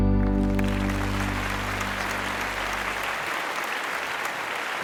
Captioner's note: audience applauding